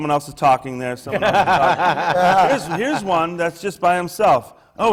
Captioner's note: laughter from the panel